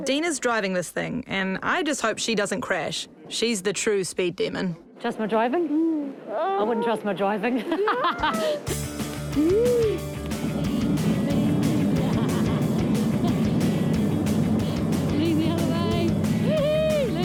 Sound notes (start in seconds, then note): 7.6 both laugh; 11.8 laughs